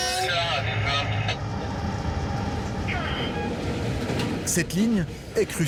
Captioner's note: train horn blaring; dispatcher speaking foreign language